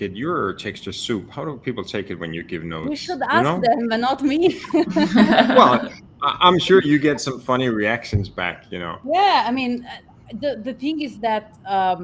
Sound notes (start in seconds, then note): 4.4 laughs